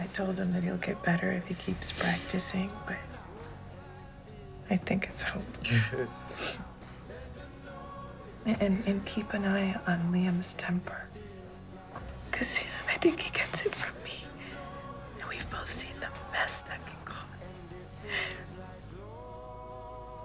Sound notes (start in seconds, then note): 5.6 laughs, sniffles